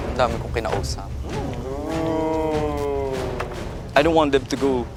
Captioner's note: campers ooh-ing